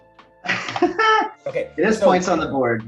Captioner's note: laughs